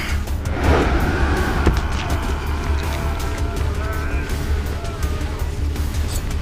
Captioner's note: whooshing; men groaning